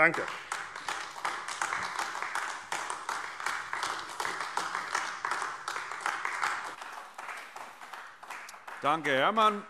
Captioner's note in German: Beifall AfD